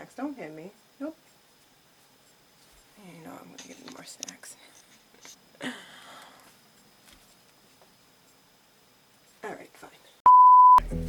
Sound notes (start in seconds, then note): 2.9 mumbles; 5.0 laughs; 10.2 beep